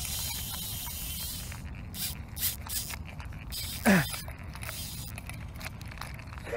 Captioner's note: rod clicking